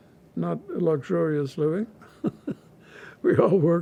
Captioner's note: laughing